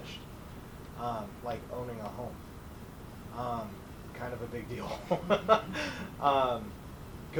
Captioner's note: laughs